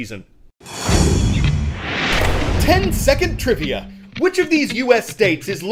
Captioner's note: voice-over